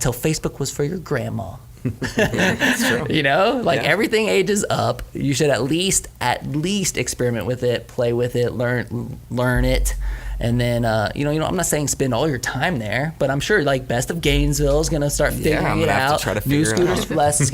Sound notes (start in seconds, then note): 1.8 chuckles; 1.8 laughs